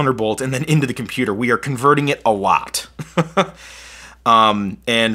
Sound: laughs

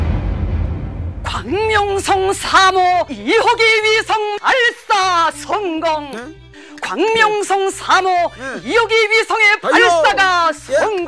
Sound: Chinese language in TV

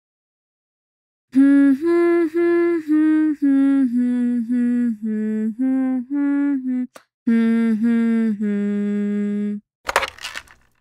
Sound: humming the hold music

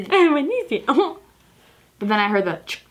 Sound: giggles

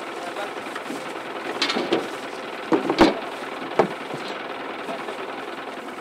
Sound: sound of a motor running, people talking

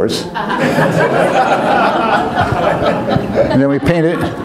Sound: audience laughs

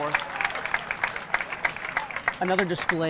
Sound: audience clapping

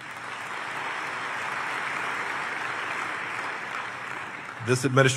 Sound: applause

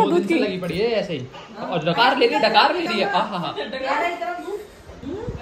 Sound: background chatter

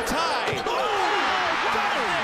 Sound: crowd Cheering

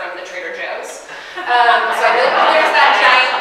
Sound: audience laughing

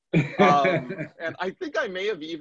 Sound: laughs

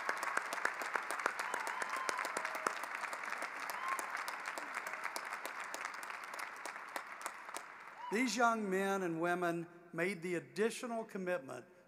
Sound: cheering and applause

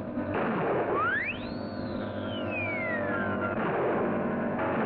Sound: flare gun firing; loud whistle

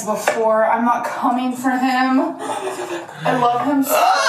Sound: shudders

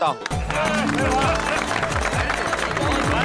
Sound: applauding

